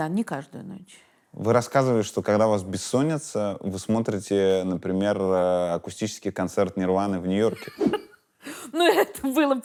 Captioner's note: laughs